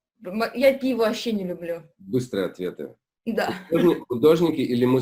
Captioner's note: laugh